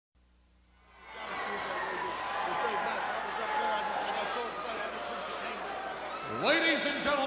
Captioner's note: crowd cheering